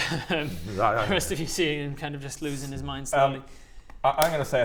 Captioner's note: shudders